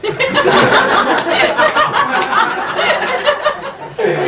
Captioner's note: laughing